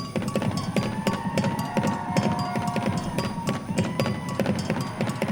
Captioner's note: audience cheering